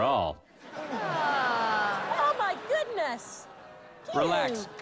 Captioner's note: audience groans